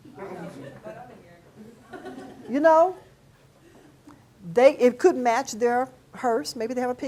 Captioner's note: class giggles